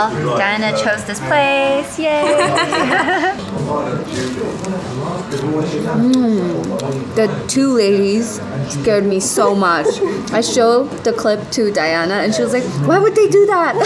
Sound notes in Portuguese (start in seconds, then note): 2.2 risos